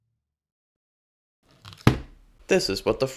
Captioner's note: thud